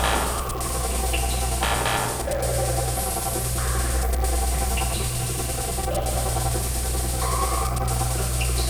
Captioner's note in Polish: Ciągłe, ciche buczenie; Ciągły, oscylujący, metaliczny szum; Ciągłe, ciche buczenie